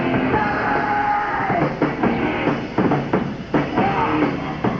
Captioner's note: leader singer screaming